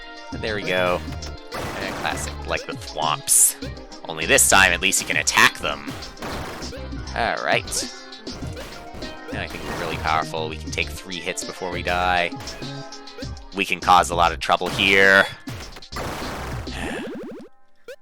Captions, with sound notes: But, there we go. Ah, classic. Like the Thwomps. Only this time, at least you can attack them. Alright. Now, I can be really powerful. We can take three hits before we die. We can cause a lot of trouble, here. (*sigh*)